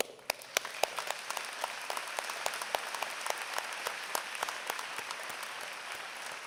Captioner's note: applause